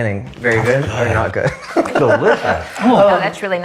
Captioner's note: laughs